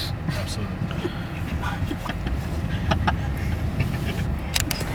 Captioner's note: light chuckle